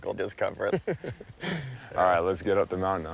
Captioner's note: both laughing